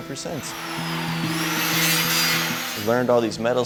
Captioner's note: tool grinding